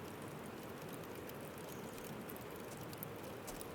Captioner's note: fire crackling